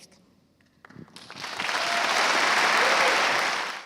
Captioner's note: applause